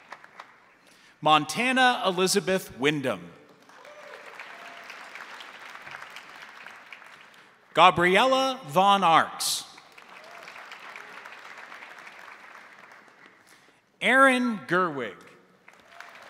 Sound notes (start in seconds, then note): 3.5 crowd applauding; 3.7 crowd cheering; 9.7 crowd applauding; 9.9 crowd cheering; 15.6 crowd applauding; 15.7 crowd cheering